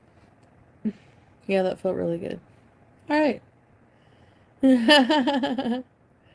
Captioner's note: laughs